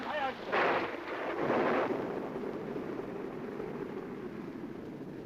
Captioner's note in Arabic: صوت الرعد